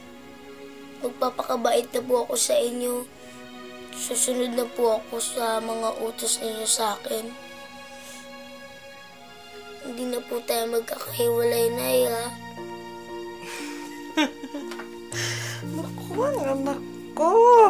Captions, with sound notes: I'll be good to you. I'll obey your commands from now on. We'll never be apart, right, Mom? [laughs] Oh, my child!